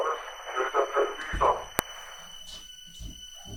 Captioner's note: Chemock speaks Latin; door closes; footsteps approach